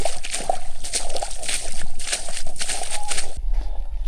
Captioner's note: water splashing